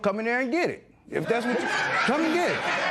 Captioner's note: laughter